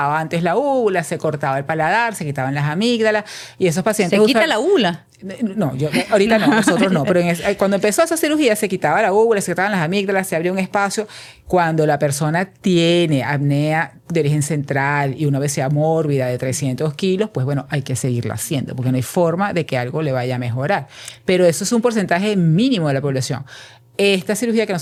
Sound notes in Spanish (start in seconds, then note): 5.8 risas